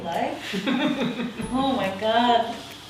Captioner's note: laughs